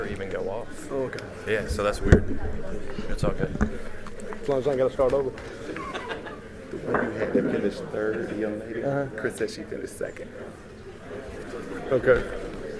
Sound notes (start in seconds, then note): 5.6 laughter